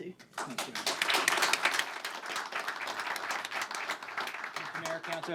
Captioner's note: applause